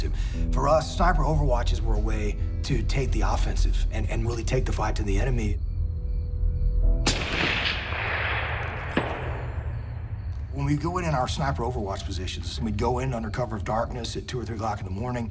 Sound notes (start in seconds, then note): 7.0 gunshot